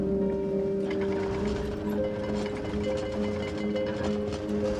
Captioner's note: walls rattling